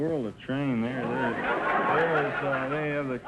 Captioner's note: audience laughter